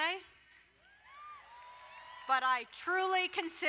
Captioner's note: crowd cheering